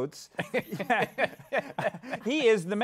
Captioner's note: laughter